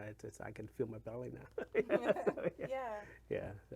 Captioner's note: laughs